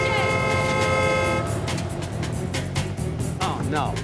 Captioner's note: car horn blaring